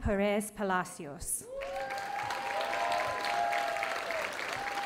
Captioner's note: audience applauding